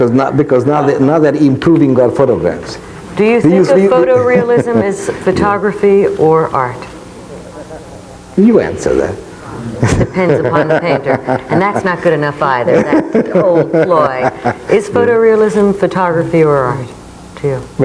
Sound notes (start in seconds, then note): 9.8 laughs loudly